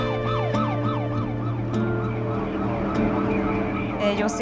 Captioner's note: siren blares